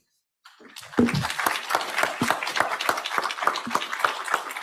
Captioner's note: audience applauds